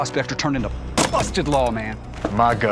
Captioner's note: chops wood